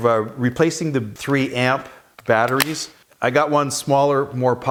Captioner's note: battery clicking